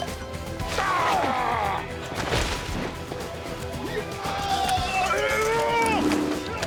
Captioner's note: cries out; thwacks; crying out; whacking